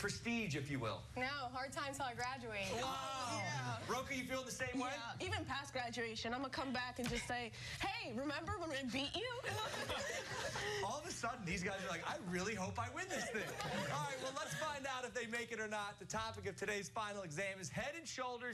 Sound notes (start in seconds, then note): 13.0 laughter